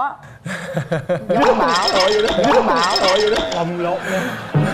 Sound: laughs

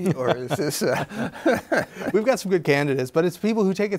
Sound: both laughing

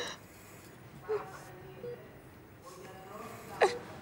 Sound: crying

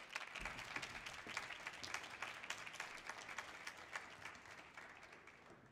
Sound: audience applause continues

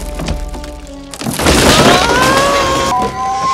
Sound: Branch snap, Pooh Screaming

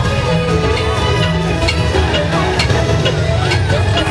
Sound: the crocodile tick-tocks as he passes

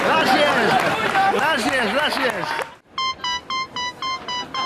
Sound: cheering

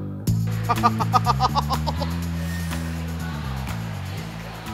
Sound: laughs

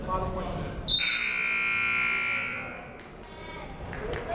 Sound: buzzer

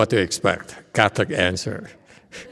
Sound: laughs

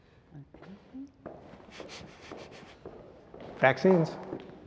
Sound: footsteps approaching

